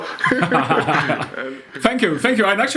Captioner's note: laughs